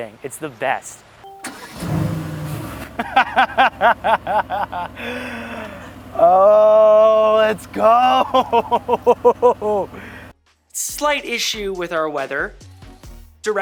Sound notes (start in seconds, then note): 1.5 car starting; 2.7 laughing